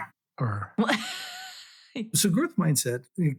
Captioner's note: laughing